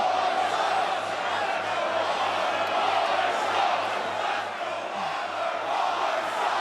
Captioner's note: crowd chants "Let's go Waller/Waller sucks"